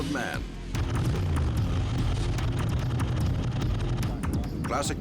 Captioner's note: engines rumble